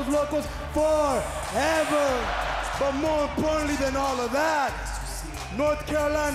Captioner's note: speaking in foreign language